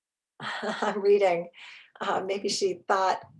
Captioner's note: chuckles